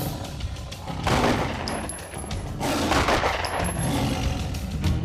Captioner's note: gun shots